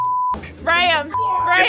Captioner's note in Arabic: صافرة